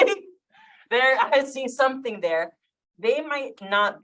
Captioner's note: chuckles